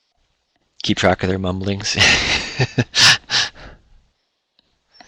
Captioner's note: laughs